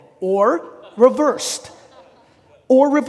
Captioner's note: audience laughing